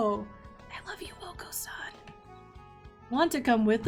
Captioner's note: whispers: I love you, Okosan